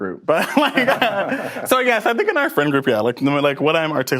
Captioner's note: both laugh